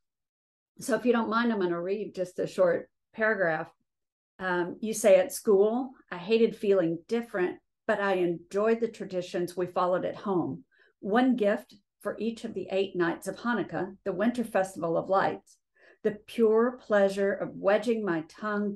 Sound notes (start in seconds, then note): none